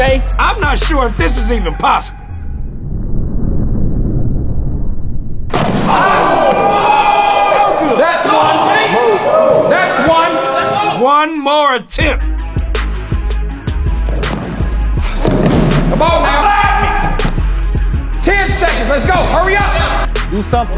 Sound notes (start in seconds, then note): 5.4 dunk sound; 5.7 cheers